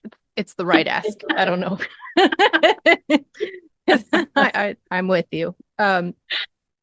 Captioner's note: laughing